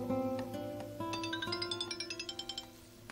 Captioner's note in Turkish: telefon çaliyor